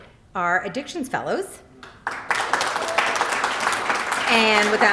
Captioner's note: applause